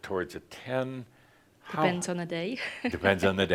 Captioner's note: she chuckles